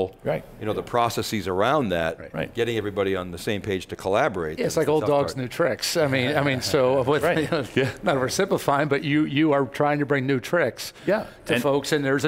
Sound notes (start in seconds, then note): 7.2 chuckles